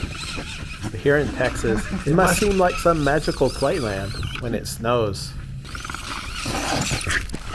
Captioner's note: Juqui growling